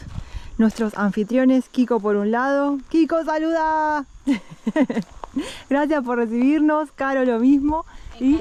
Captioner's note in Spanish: risas